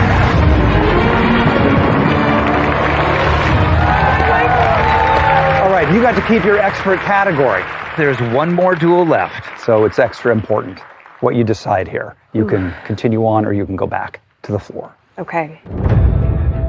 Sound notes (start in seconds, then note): 12.6 exhales sharply; 15.6 dramatic music